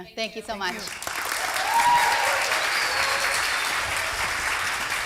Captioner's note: applause